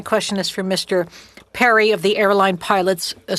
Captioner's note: speaking French